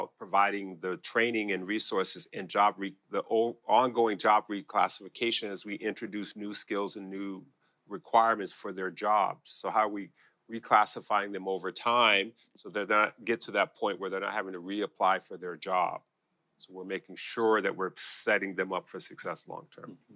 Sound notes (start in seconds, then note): none